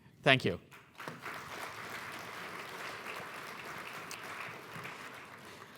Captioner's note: applause